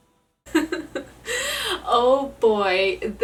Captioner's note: laughter